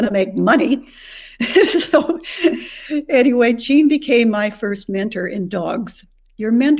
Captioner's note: chuckles